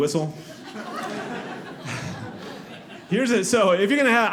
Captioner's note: audience laughing